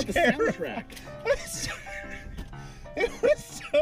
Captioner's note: sounds of fear and crying